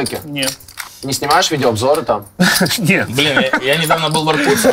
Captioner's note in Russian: смеется